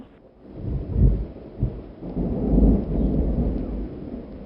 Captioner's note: thunder booming